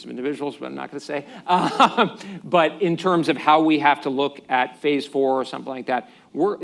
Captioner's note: laughs